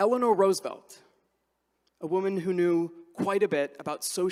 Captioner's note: none